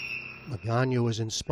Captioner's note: whistles blowing